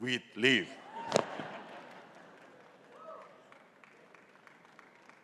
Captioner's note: audience laughing